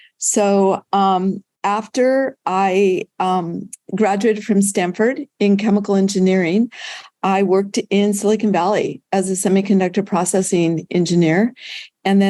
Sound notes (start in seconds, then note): none